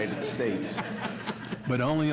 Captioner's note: audience laughs